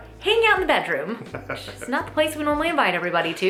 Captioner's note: laughs